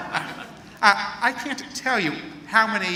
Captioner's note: laughter